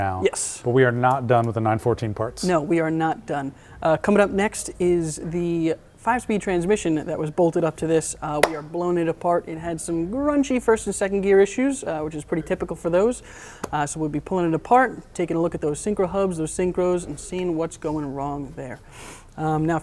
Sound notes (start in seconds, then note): none